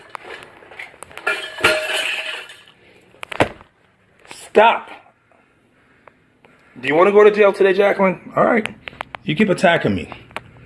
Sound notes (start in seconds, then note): 0.0 objects clattering and breaking